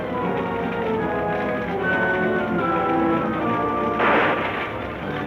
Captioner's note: dramatic orchestra music; fire crackling; guns firing